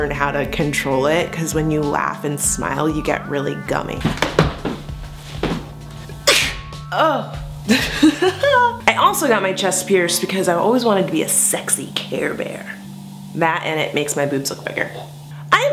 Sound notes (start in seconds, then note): 6.2 sneeze!